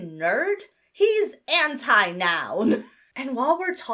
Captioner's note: chuckles